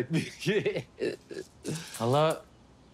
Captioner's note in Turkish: Gülüyor